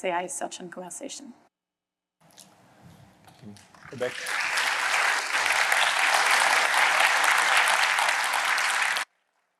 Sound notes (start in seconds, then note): 3.8 applause